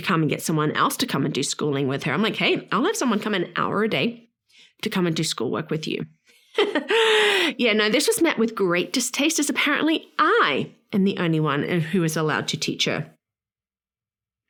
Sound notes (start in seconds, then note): 6.6 laughs